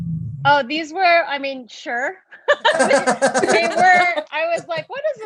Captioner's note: laughs